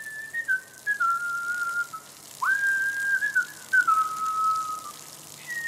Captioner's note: A lot of whistling